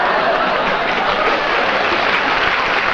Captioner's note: applause